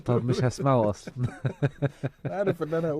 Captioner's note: laughter